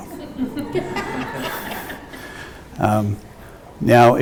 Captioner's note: audience laughs